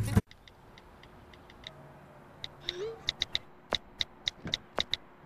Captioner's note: constant clicking